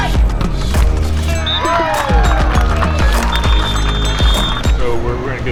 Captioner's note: crowd cheering